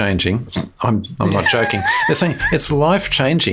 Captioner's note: laughs